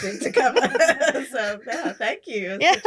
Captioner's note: laughs